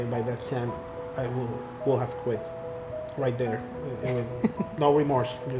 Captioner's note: laughter